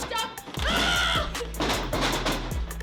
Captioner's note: Willow yells